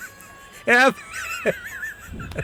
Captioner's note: laughing